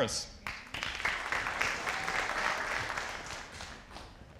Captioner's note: audience applauding